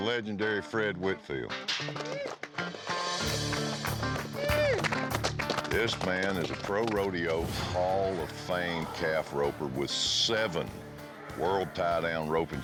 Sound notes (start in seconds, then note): 1.8 applause